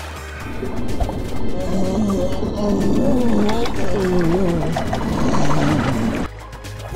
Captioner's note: fish monster screams in pain